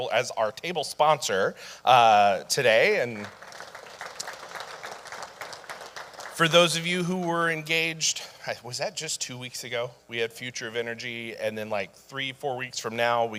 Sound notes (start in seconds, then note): 2.8 audience applauding